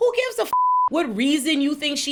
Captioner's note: beep